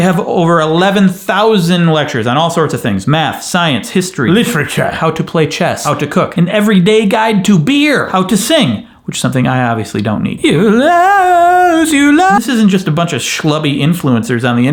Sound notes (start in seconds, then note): 10.4 vocalizes